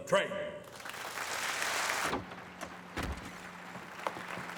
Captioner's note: audience applauding